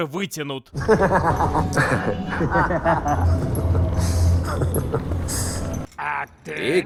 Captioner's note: bad laughter